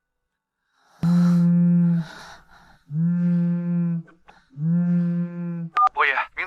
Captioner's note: buzzing